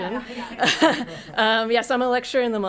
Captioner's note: laughs